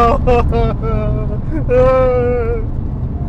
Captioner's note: cries